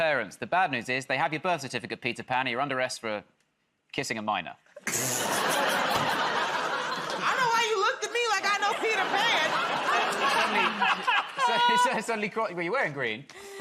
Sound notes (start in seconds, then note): 4.8 laughter